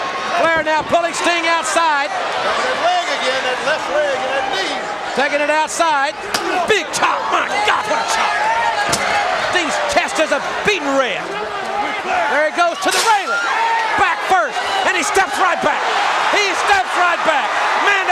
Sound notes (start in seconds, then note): 6.3 chop striking; 8.8 metal chair clanging; 16.1 crowd cheering